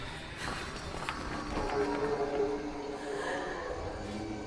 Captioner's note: Julie breathes heavily; tarp rustling